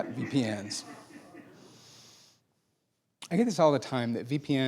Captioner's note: laughing